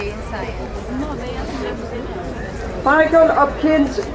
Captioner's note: students chattering